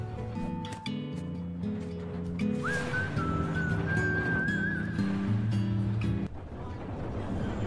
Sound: whistling

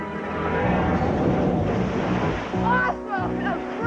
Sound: big splash

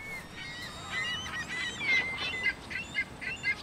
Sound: birds calling

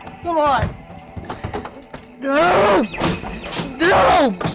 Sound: screaming, smashing, and stomping

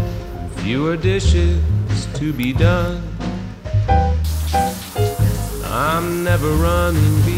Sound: water running

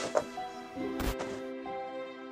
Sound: glitch sound

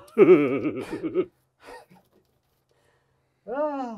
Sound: both laughing

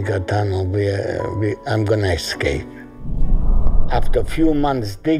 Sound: scene whooshing

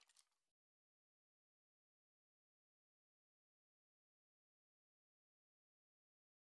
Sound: silence

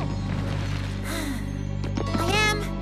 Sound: sigh!

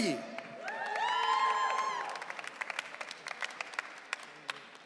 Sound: audience cheering

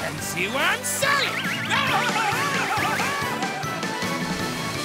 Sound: screaming

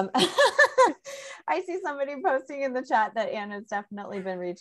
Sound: laughs

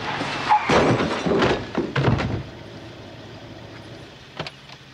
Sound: luggage clattering

